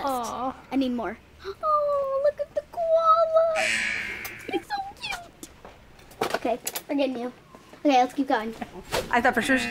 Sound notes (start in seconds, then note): 3.6 buzzer